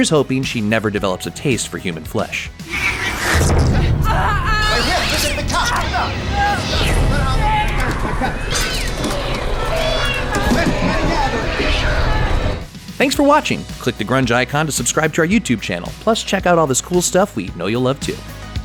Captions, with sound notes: Here's hoping she never develops a taste for human flesh… (The sounds of sheer cat terror) Thanks for watching! Click the Grunge icon to subscribe to our YouTube channel. Plus check out all this cool stuff we know you'll love, too!